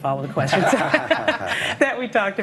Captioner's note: group laughs